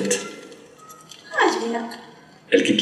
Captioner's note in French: voix étrangère